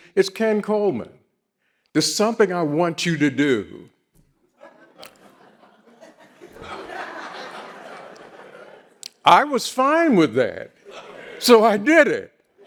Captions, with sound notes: "It's Ken Coleman, there's something I want you to do." (audience laughs) I was fine with that. So I did it.